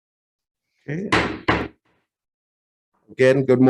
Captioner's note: gavel bangs